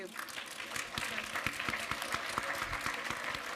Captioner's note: applause